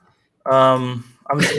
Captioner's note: laughter